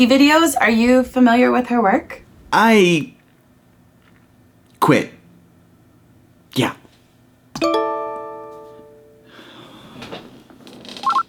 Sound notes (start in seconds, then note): 7.5 computer dings